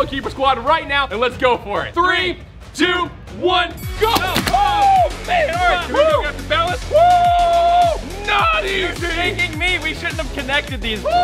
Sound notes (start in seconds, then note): 4.0 confetti pops; 5.0 screaming; 6.8 screams